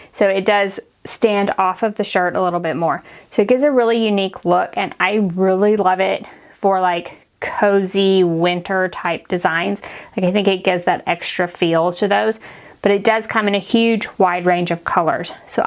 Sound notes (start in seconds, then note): none